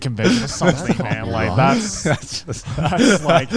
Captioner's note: all laughing